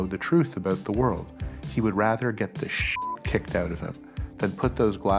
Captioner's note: beep